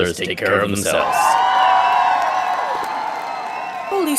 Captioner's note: crowd cheers and applauds